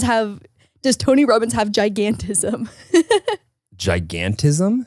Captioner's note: laughs